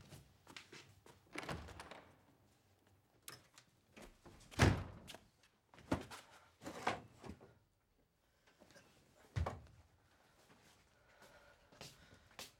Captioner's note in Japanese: ドアが開く音